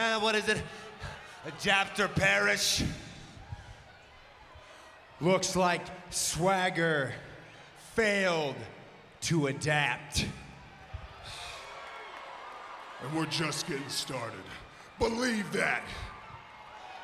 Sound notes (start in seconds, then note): 11.9 audience cheers